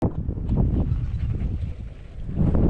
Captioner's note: bicycle on Trail Sound, Dog panting, and a lot a wind noise